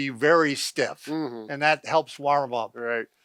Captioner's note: mmhmms